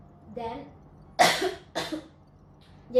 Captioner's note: cough